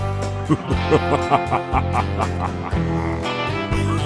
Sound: evil laughing

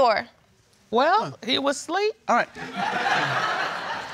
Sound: crowd laughs

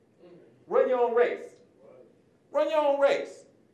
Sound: murmurs of approval

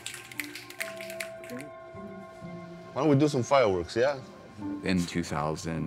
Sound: participants snapping fingers

